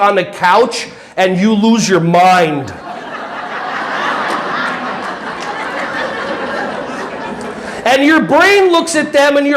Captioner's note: audience laughing